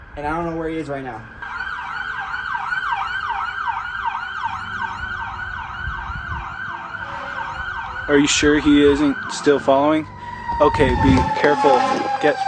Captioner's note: police Sirens